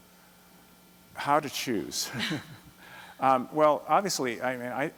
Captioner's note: chuckles